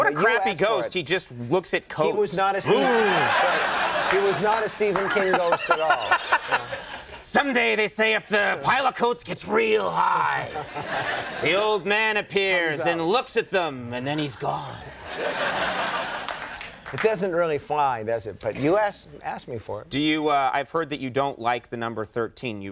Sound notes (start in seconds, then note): 6.1 Conan laughing; 14.8 audience laughing